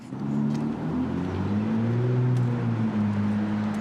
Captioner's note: car revving